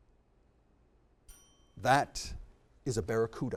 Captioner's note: bell tings